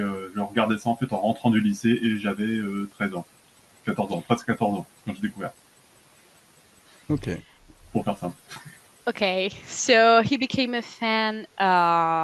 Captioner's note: translating from French